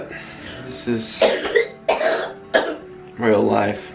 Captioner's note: coughing